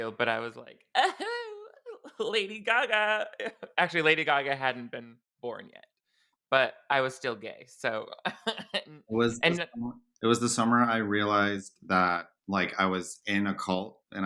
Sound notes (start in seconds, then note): 8.3 chuckles